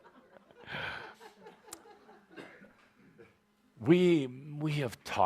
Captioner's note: chuckling